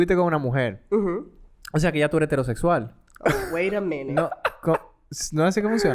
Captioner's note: laughs